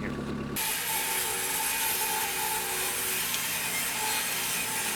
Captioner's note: electric saw screeching